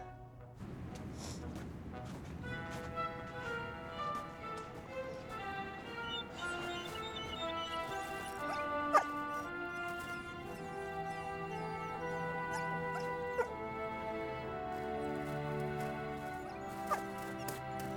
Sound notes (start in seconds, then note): 5.3 dogs whimpering